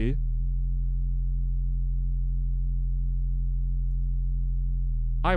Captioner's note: low hum continues